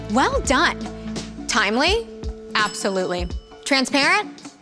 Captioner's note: bell dings